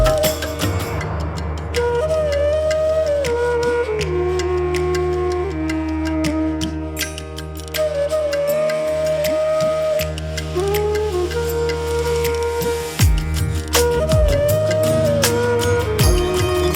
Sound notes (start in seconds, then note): 2.9 clap